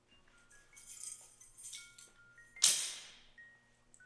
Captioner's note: keys clanging